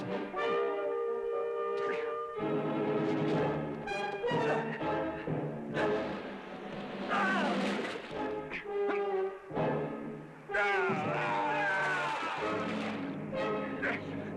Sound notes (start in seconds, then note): 7.0 yelling